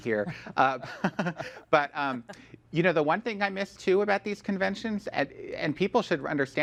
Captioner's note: laughs